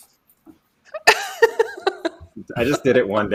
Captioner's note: laughs